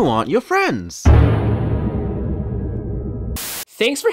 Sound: slightlyhigherpitchhorrorsoundeffect.mp3

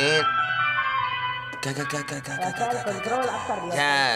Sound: woman speaks foreign language

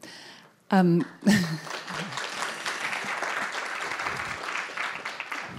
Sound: audience clapping

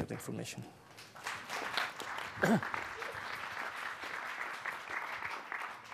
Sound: audience applauding

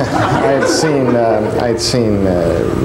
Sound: laughter; laughs

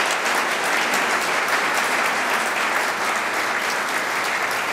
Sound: applause

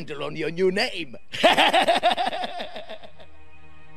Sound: laughs

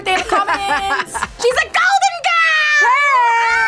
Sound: laughs

